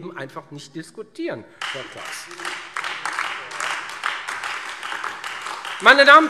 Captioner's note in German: Beifall Freie Demokraten und AfD